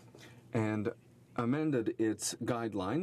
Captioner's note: speaking in french